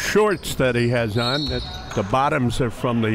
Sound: whistle blows

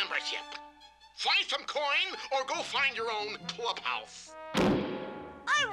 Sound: door slams

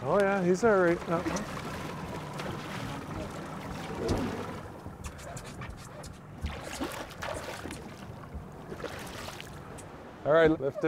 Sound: fish splashing

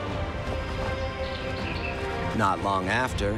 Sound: birds chirping

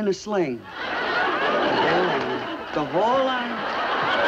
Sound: audience laughs

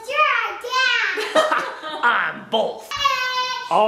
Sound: laughing

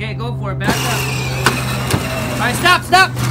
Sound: engine revs

